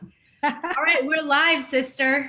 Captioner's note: laughing